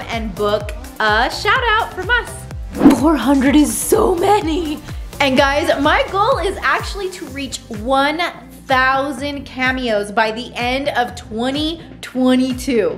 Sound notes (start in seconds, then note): 2.8 laughing